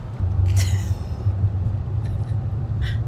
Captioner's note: laughs